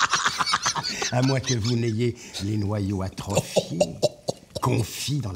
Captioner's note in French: Rires